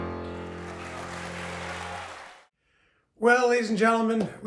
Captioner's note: audience cheering